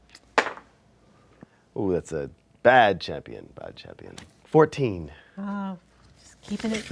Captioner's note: dice roll